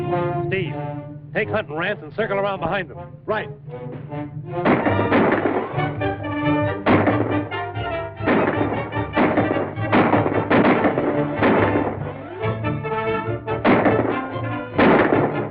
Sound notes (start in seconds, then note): 4.7 gunshots firing